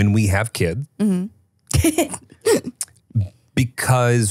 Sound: chuckles

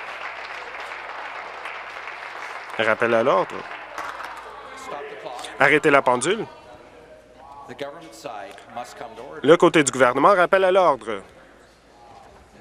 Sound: applause

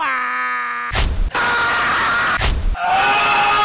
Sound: Tyler1 Scream

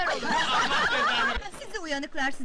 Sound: laughing

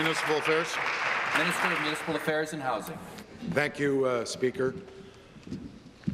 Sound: applause

